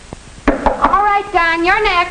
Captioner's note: loud knocking